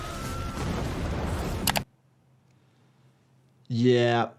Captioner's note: flames flickering; explosion blasting